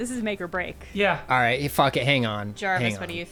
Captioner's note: pat